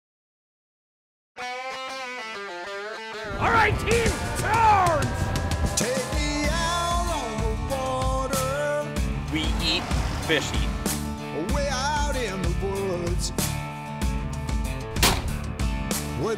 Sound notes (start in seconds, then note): 0.7 upbeat country music; 9.8 voiceover